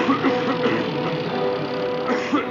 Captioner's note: coughing